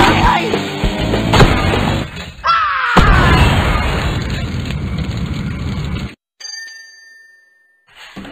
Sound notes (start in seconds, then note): 0.0 rock music; 2.4 sales clerk screams